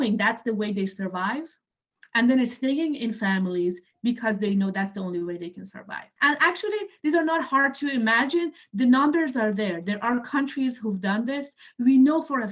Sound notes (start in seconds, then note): none